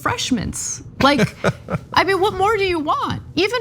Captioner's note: laugh